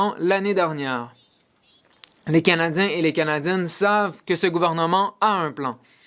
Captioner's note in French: voix de l'interprète